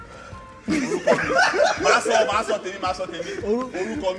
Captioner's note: laughs